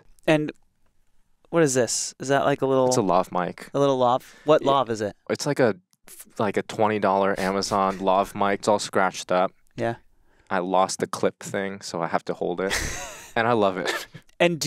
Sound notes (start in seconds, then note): 8.0 chuckling; 12.6 laughs